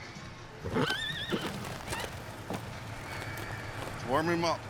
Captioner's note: neighs